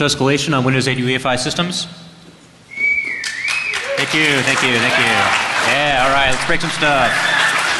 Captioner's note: applause